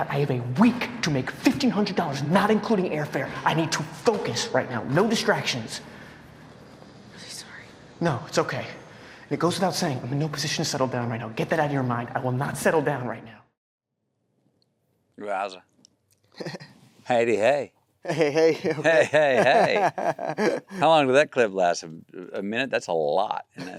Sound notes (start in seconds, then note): 16.3 Timothée laughs; 18.0 Timothée laughs